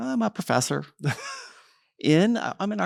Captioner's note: laughs